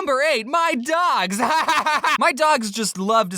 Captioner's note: laughter